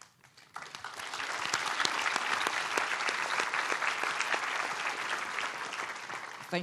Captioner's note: applause